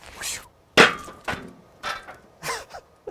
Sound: metal clanging; laughs

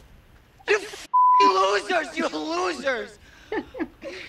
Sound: beeping

